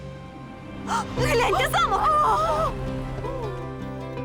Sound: gasping; exciting music plays

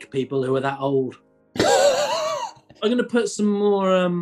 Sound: sniggering

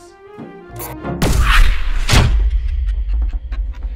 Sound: sci-Fi Explosion

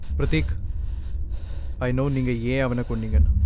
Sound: none

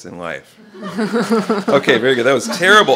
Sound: laughter

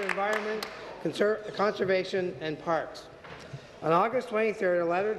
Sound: applause

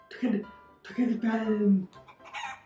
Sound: chicken clucking

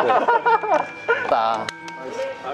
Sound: clap

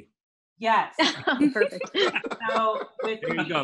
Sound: background laughs

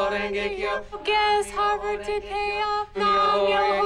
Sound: chanting

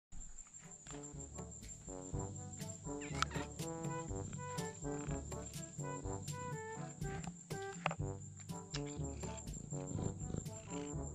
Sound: cat Noises

